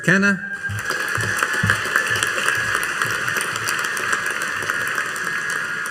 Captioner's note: audience cheering and applauding